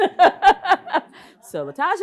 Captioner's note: laughs